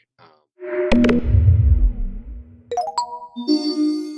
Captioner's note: logo chiming